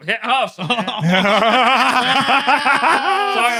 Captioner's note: laughter